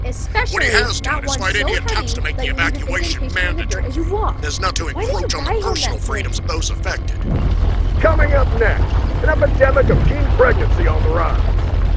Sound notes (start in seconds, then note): 7.6 truck vroomin